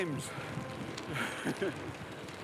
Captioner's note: laughs